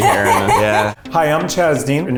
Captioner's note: laughs